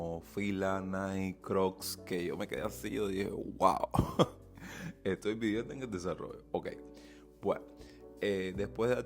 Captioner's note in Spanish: risas